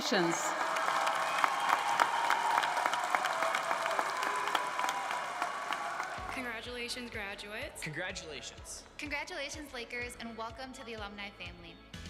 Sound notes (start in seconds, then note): 0.0 cheers and applause